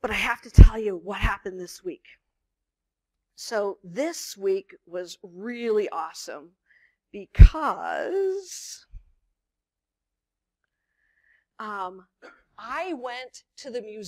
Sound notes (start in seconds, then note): none